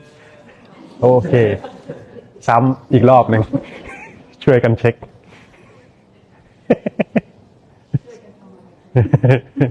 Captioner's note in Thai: เสียงหัวเราะ